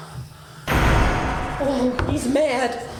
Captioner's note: door thuds